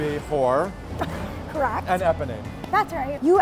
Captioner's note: laughs